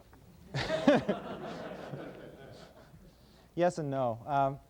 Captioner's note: laughter